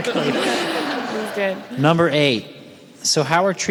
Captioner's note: audience laughs